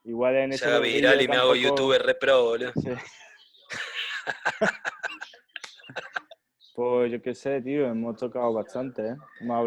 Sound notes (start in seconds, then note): 3.7 laughs